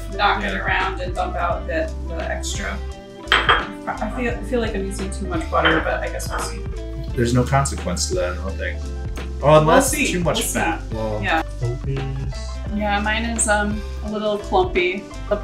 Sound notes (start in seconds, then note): 3.2 ramekins clink on counter